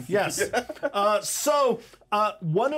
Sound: speaker laughs

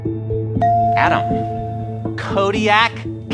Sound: ding

